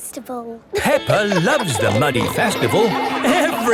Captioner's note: laughing